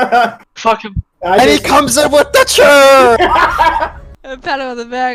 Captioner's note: laughter; more laughter